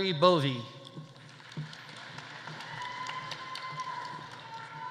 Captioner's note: audience applauding; audience cheering